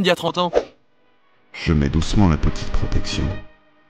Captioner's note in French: voix suave